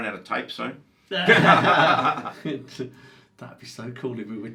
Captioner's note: both laughing